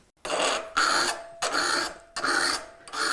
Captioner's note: metal-on-metal grinding